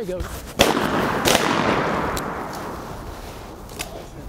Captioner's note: gunshots firing